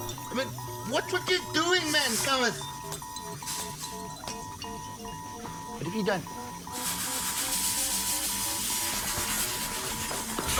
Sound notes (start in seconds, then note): 0.0 danger alarm beeps; 3.0 alarm beeping gets louder; 7.2 multiple alarms beeping; 8.9 hissing steam